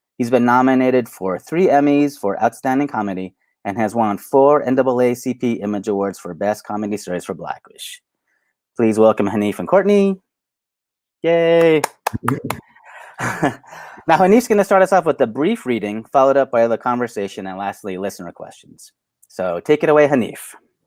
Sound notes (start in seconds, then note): 11.6 claps